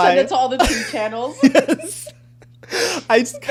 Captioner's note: laughing drowns out speaker